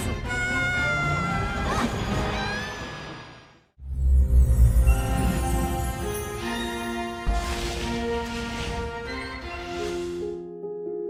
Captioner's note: scream